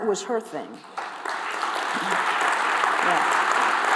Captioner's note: applause